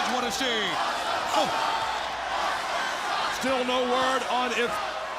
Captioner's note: crowd cheering